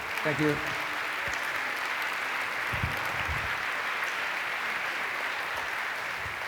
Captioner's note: applause